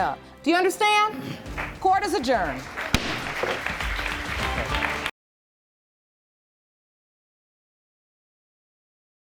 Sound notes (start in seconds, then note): 2.3 audience applauds; 3.0 bangs gavel